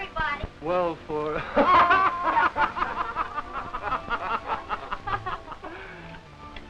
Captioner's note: laughter